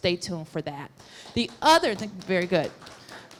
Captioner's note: applause